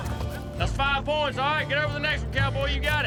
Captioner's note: horse neighs